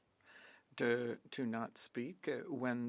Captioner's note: speaking French